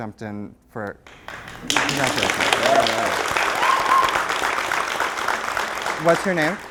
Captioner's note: applause